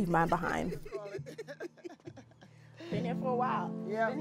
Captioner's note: laughter